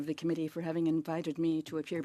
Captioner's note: speaking French